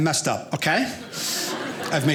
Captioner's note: audience laughing